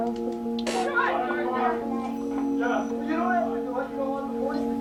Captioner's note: video editing noises